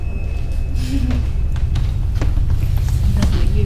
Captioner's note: woman chuckles